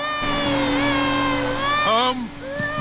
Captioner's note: crying